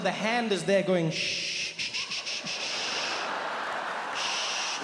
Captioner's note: Trevor shushes